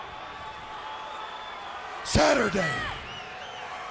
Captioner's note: crowd cheering